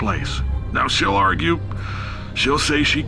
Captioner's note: sigh